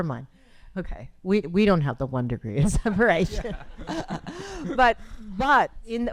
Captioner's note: chuckles